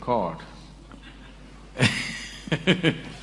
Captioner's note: laughs